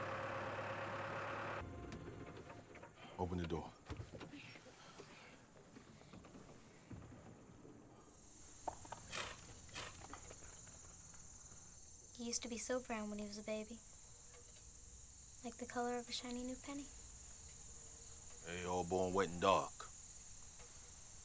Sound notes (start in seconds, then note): none